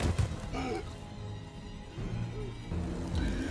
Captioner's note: body thumping; person gasping for air; tense music